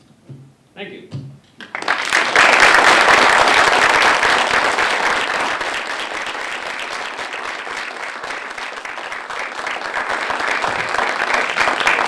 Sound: clapping

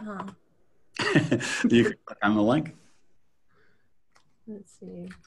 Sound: laughing

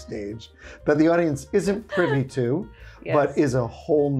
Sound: chuckling

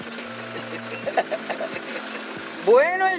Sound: laughter

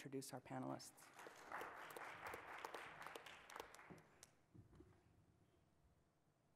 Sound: audience applauds

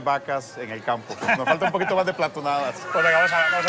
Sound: laughs

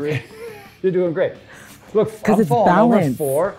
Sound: laughs

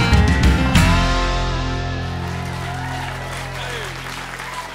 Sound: cheers and applause

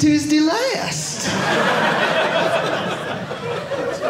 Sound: audience laughing

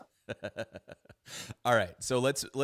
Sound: laughs

